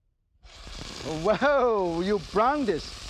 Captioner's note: meat sizzles